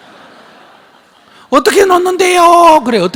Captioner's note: audience Laughter